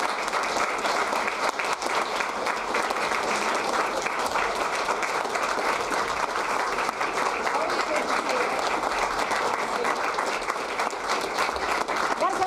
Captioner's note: applause